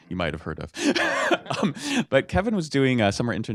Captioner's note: laughter